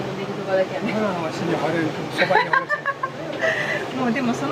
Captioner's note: laughs